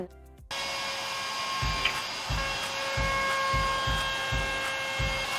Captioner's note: sander whirring